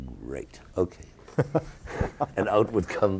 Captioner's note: interviewer laughing